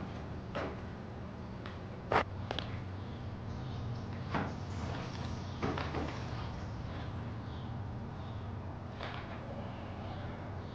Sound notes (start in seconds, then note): 0.0 hard step on cement; 0.2 walking; 2.2 packing bag and patting it